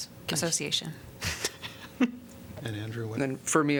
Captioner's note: laughter